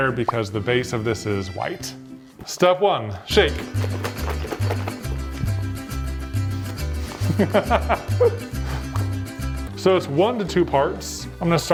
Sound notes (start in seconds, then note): 3.4 upbeat music; 3.6 liquid sloshing; 7.1 laughing